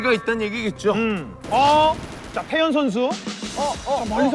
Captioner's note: firing shots